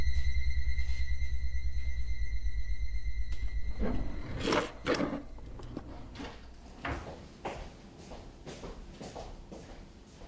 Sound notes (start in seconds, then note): 6.9 footsteps recede